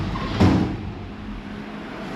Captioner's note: door slamming